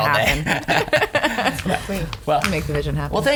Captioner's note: laughs